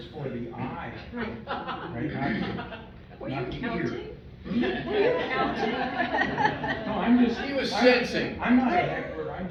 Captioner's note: chatter, laughter, teasing